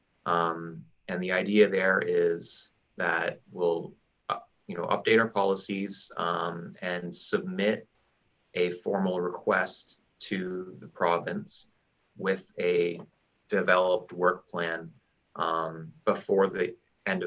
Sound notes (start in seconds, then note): none